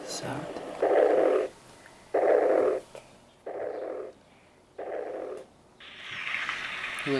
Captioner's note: heart beat sound